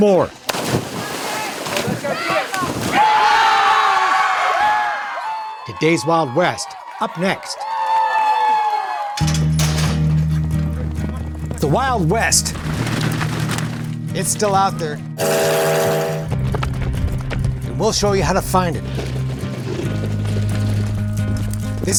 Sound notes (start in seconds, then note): 0.3 water splashing; 2.0 people cheering; 9.2 metal clanking; 9.2 upbeat music; 15.1 upbeat music; 15.2 train whistle; 16.3 hooves thudding; 19.4 upbeat music